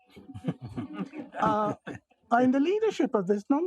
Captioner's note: audience laughing